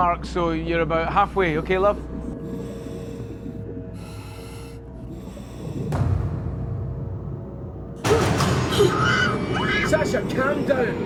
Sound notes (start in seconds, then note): 2.2 air hissing; 7.8 gasps